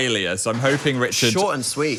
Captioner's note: metal clanking